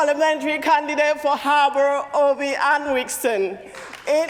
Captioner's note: cheering and applause